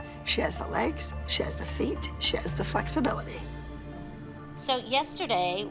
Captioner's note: none